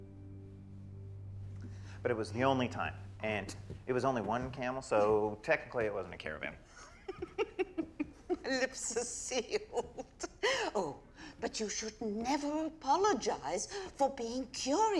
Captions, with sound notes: BUT IT WAS THE ONLY TIME, AND IT WAS ONLY ONE CAMEL, SO, TECHNICALLY, IT WASN'T A CARAVAN. [GIGGLING] MY LIPS ARE SEALED! OH, BUT YOU SHOULD NEVER APOLOGIZE FOR BEING CURIOUS, NORMAN.